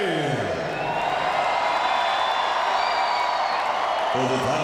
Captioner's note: crowd cheering